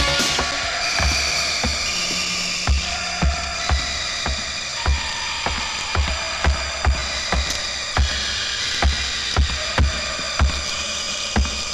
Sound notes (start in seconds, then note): 0.8 footsteps Approaching